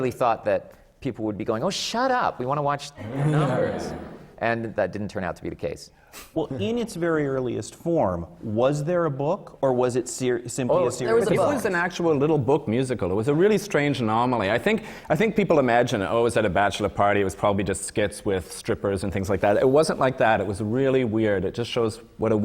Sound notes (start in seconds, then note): 3.1 laughter